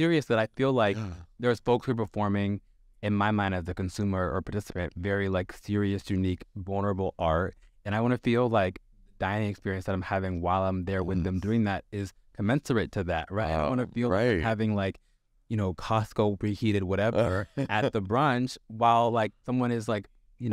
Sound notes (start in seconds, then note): 17.1 Sasha laughs